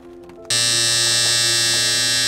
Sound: buzz

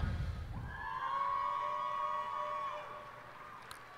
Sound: cheers and applause

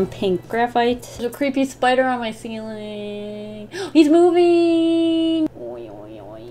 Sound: gasps

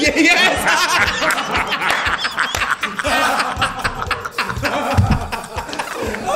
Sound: laugh

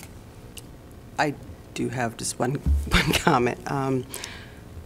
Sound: laughter

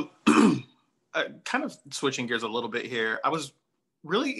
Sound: clears throat

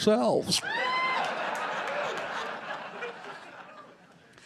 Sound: laughter

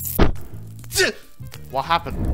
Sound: Oodle gasps

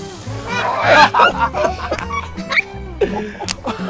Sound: all laugh

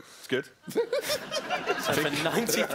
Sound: laughing

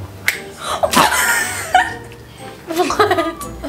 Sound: laughter

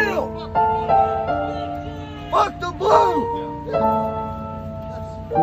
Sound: shouts of "Fuck the blue!" in the background

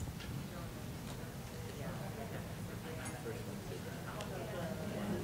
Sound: group chattering

